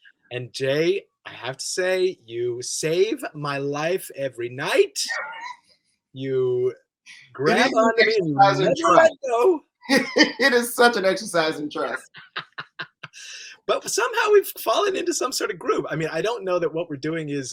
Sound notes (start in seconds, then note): 4.9 laughs; 11.7 laughs